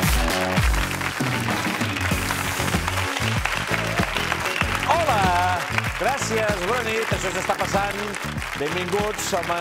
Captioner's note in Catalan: aplaudiments